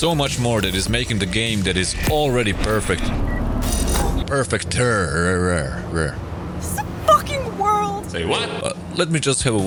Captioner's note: cursing